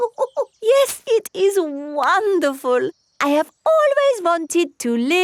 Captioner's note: laughs